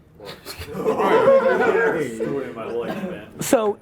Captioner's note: laughs